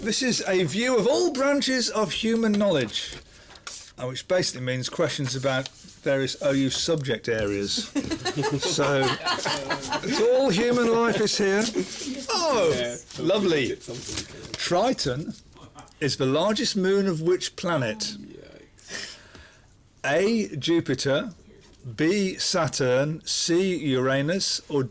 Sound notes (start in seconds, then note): 7.8 laughing